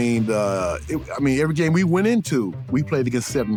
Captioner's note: stammers